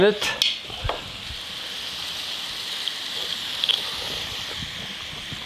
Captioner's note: brussels sprouts sizzling